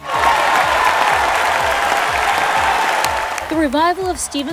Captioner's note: audience cheers and applauds